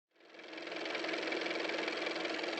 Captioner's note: car motor